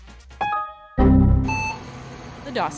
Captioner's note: computer error message sounds